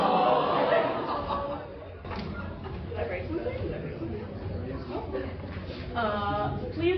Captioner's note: sad audience noises